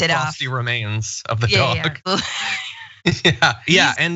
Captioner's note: laugh